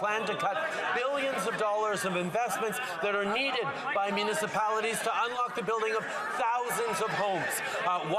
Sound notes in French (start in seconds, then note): 3.1 voix de l'interprète